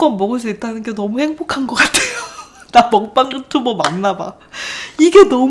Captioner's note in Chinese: 笑声